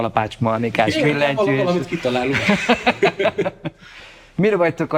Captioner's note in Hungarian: Nevetés